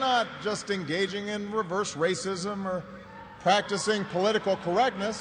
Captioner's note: cheers and applause